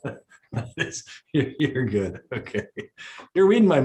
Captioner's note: laughs